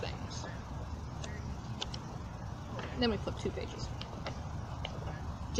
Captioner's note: flapping of paper